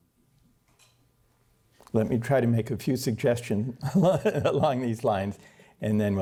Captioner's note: laughter